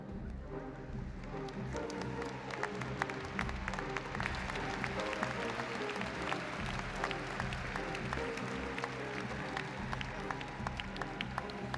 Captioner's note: applause & Cheering